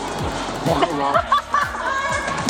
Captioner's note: Robbie laughs